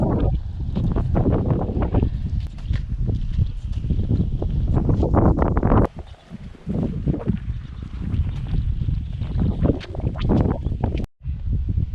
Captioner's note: wind